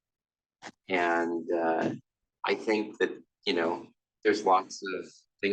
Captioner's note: none